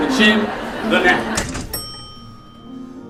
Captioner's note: elevator ding